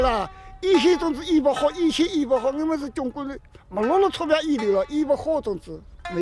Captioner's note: speaking foreign language